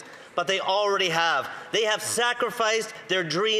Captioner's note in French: voix de l'interprète